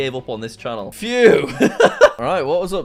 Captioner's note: laughs